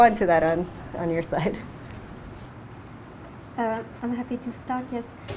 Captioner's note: laughs